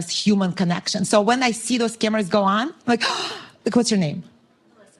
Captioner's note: gasp